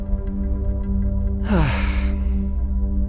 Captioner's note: sighs